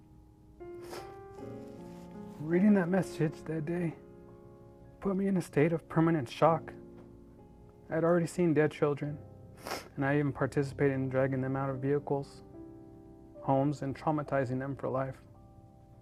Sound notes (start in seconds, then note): 0.2 gentle piano music; 0.8 sniffles; 9.6 sniffles